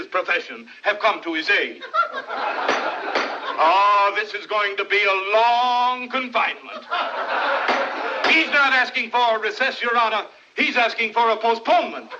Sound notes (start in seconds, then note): 1.7 crowd Laughing; 2.6 gavel Pounds; 6.4 laughter Continues; 7.6 gavel Pounding